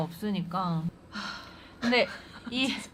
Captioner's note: sigh